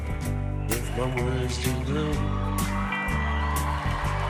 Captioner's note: cheering and applause